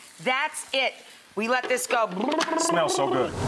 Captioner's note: mixing sounds